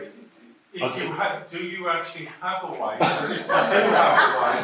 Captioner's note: audience laughs